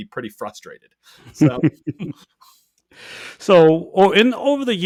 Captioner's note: laughs